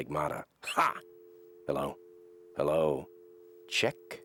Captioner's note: dial tone